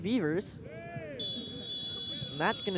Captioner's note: whistle blows